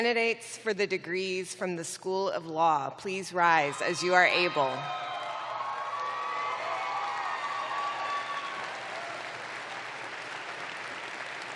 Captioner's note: cheering